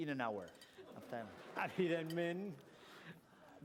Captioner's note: non-english speech